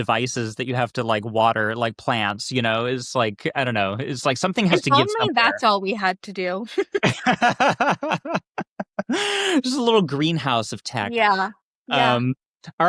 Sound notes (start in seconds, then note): 6.7 both laughing